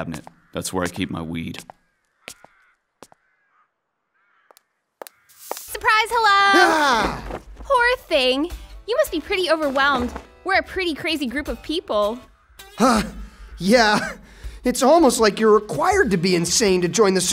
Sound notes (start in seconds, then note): 14.2 catches breath